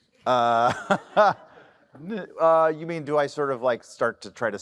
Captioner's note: laughs